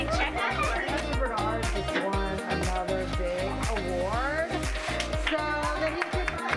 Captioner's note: woman off-screen; applause